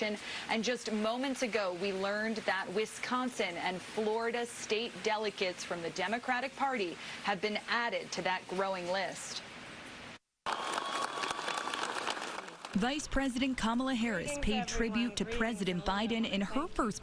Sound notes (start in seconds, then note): 8.7 applause